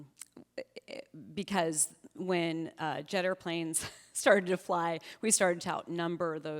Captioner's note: chuckles